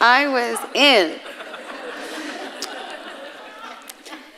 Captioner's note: audience laughing